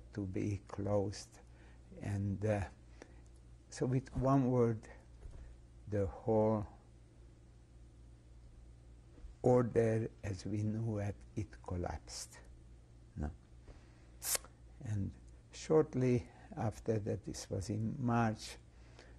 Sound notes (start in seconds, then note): 6.6 pauses for 3 seconds